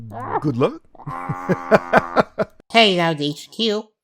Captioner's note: chuckles